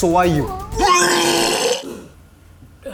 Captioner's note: loud and disgusting vomit